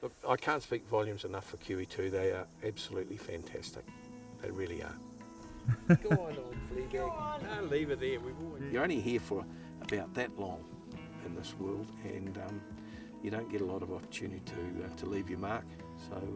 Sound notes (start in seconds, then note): 9.8 snaps fingers